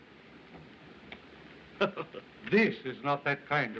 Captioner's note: chuckles